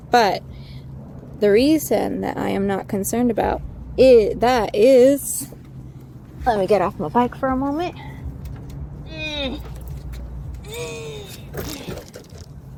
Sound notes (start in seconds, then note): 9.0 grunts